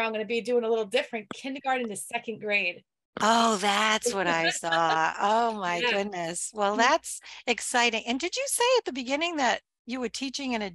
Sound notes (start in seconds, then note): 3.6 laughs